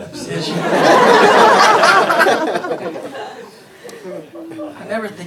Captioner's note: everybody laughing